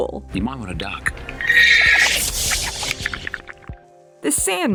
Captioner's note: horse neighs